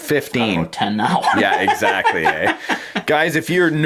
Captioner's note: laughing